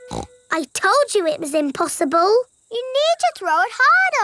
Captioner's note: snorts